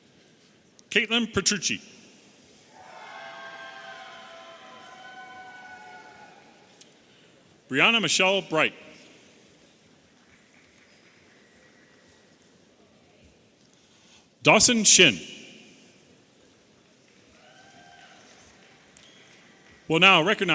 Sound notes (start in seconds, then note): 10.1 audience applauding